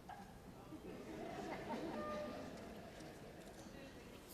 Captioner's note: audience laughs